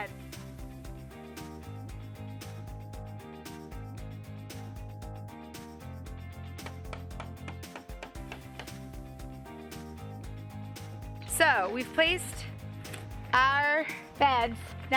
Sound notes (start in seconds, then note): 0.1 upbeat music; 6.6 hammer tapping